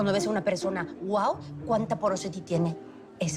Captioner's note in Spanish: none